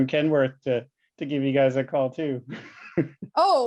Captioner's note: chuckles